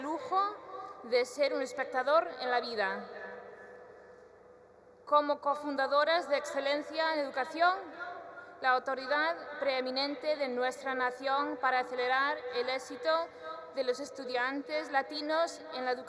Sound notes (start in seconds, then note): none